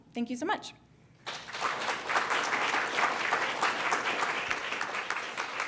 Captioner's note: applause